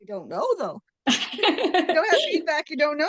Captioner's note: laughs